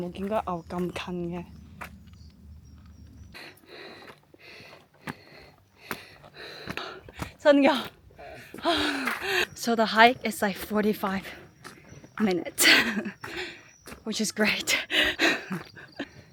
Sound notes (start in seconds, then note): 3.3 breathing heavily